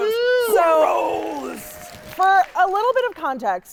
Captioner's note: audience clapping